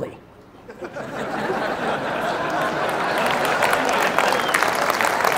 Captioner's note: audience laughs, applauds